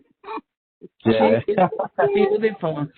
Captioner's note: laughing